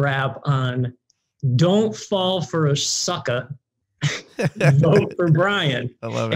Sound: laughs

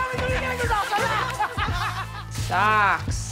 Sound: laughs

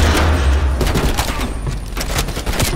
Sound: gunshots

